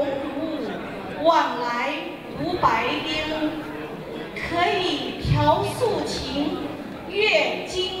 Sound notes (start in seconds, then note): 0.0 crowd talking; 3.6 speaking in Mandarin